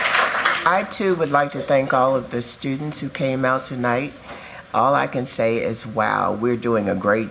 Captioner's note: applause